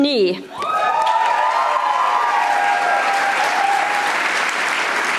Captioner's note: audience applauding